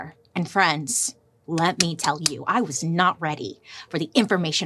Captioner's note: claps